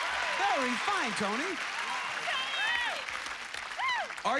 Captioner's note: cheers and applause